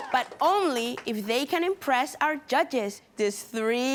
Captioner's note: cheering & applauding